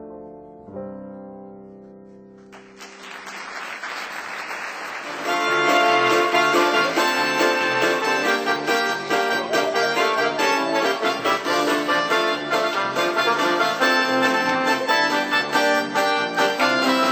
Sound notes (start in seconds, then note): 2.4 applause